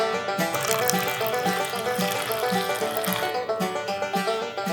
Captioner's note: juice dripping